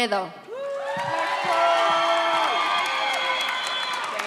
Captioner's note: audience cheers